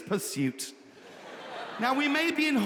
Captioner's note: audience laughing